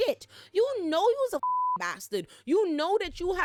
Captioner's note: beep